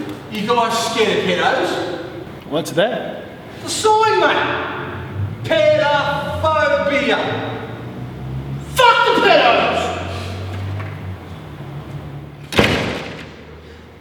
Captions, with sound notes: You guys scared of pe doughs? What's that? The sign mate! PED-A-PHO-BI-A Fuck the pehdoes! (door closes)